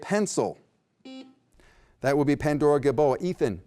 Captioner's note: beep